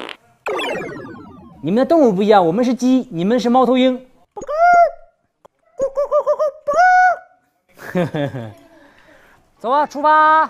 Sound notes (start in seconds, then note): 4.3 bah-gawk; 5.8 gawk~Gawk~Gawk~Bah-gawk